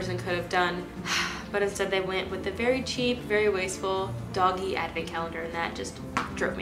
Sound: sigh

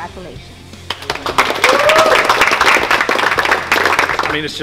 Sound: clapping and cheering

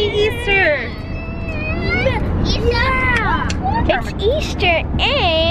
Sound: kids yell

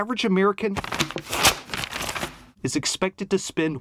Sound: pages turning

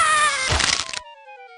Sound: Crunch

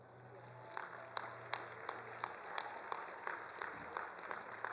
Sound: attendees applauding

